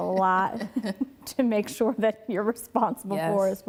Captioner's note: laughing